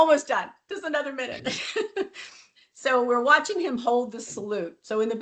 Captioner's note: laughs